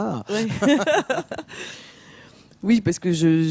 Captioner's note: laughs